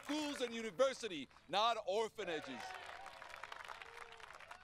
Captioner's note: cheers & Applause